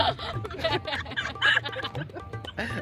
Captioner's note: sheep Voice Laughing